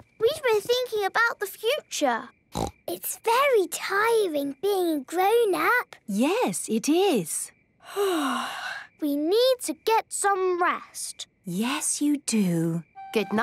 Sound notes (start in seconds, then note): 8.1 yawning